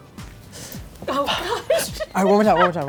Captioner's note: laughing